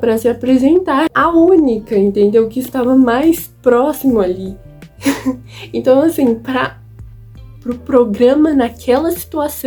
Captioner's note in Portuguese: risos